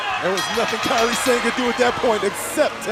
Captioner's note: bell ringing